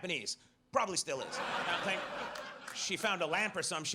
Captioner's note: audience laughs